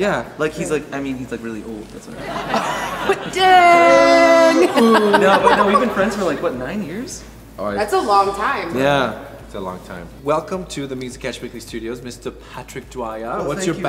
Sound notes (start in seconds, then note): 2.1 audience laughs; 4.7 laughs